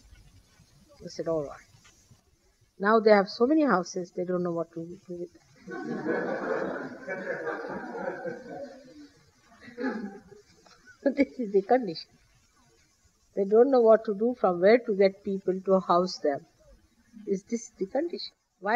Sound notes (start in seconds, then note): 5.6 laughter